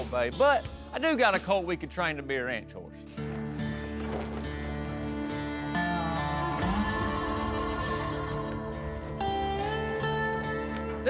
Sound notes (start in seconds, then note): 3.9 barrel thuds